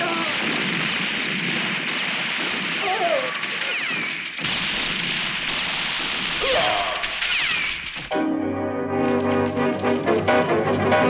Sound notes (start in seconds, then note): 6.4 guard groans; 8.1 dramatic music